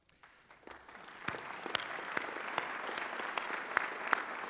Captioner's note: applause